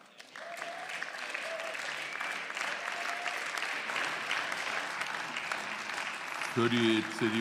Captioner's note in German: Beifall